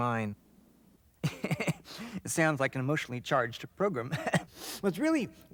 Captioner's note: laughing